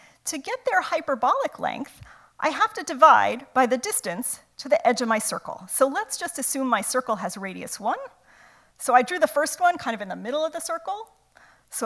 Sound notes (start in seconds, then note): none